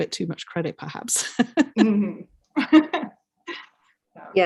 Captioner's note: laughs